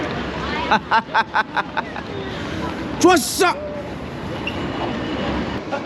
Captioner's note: laughing